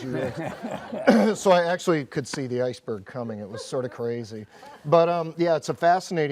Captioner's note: audience laughs